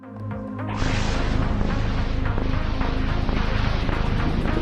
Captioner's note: lightning striking